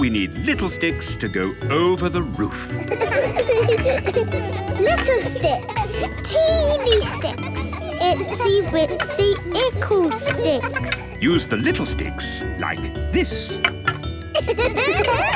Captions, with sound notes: Now we need little sticks to go over the roof. (laughter) - Little sticks. - Teeny sticks. - Itsy-witsy-ickle sticks. - Use the little sticks like this. (laughter)